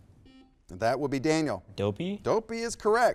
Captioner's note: buzzer beeps